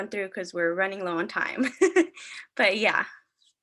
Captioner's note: laughing